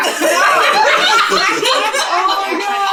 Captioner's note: laughter